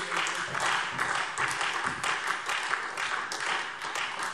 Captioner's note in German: Beifall SPD